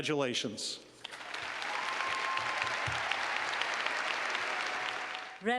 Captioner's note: clapping